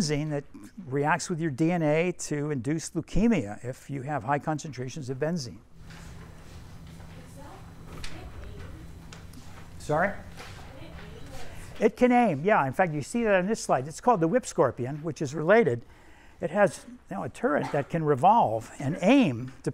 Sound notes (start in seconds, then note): 8.4 student mumbling; 10.9 student mumbling